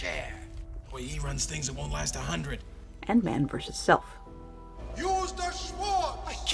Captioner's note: voiceover